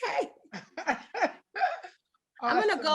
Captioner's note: delighted laugh